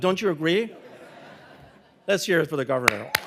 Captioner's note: audience laughing